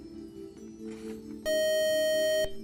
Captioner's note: buzzer